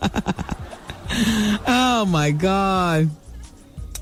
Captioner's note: laughing